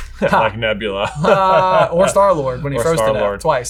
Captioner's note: chuckling